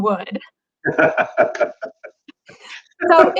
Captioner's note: both laugh